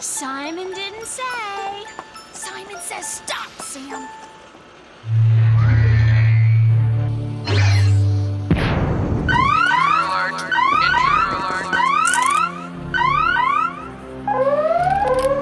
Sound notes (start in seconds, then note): 6.8 whirring; 8.3 dramatic music; 9.2 sirens; 11.4 over intercom